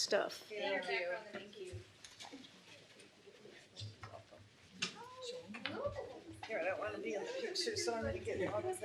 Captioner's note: shuffling